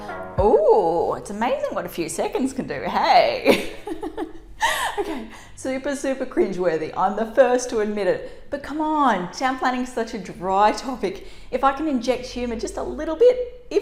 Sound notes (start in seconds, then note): 4.6 laughing